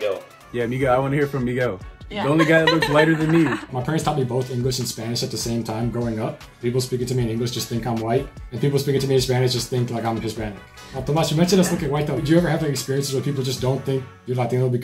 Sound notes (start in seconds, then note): 2.2 laughter